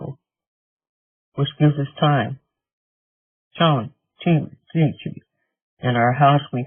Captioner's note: speaking in Native language